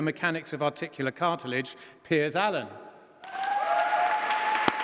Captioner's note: applause